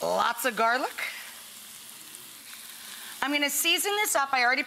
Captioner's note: skillet sizzling